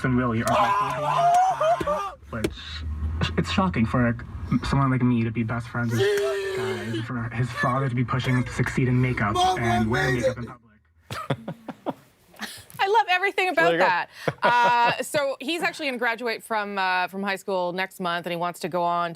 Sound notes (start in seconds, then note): 9.6 screaming